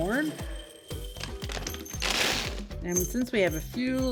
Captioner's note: seeds clinking